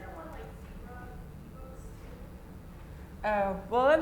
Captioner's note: audience member speaking off-mic